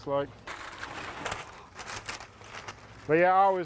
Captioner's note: paper crinkling